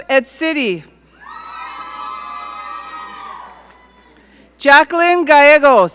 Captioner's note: audience cheer